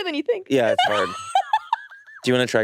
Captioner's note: laughs